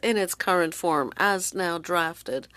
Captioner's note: speaking French